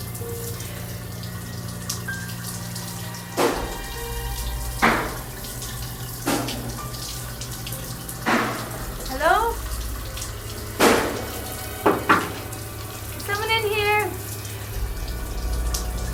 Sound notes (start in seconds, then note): 3.3 banging noise outside; 11.8 knock on door